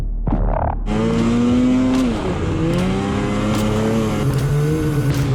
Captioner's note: snow mobile engine revving